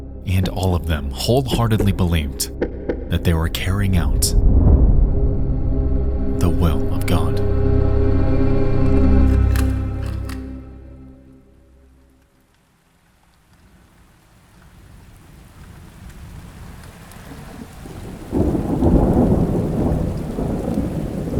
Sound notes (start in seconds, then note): 5.7 brooding music; 14.2 rain pattering; 17.8 thunder rumbling